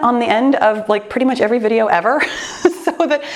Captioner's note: laughs